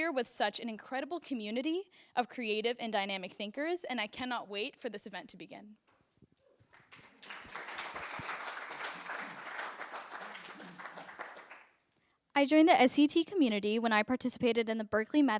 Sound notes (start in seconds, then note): 6.6 applause